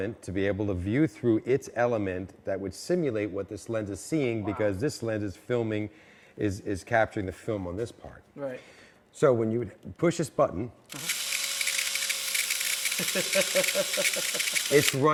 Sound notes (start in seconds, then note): 10.9 machine whirring; 12.9 laughing